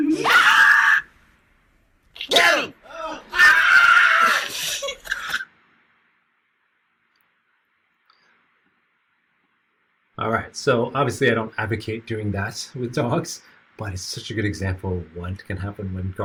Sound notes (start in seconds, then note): 1.4 dog barking; 2.2 screaming; 3.4 dog barking